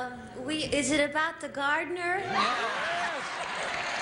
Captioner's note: cheers and applause